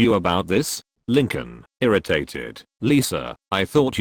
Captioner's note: irritated